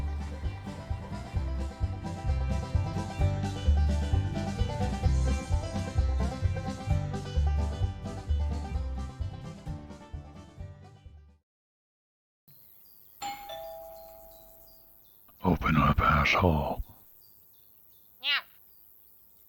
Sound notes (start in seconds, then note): 13.2 doorbell